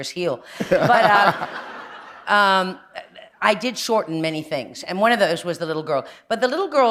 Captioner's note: laughter